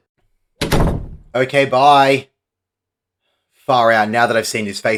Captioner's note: door closes